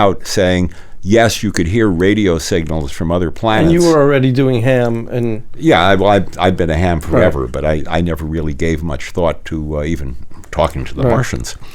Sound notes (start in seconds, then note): 4.9 radio